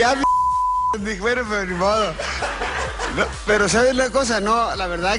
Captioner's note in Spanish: risas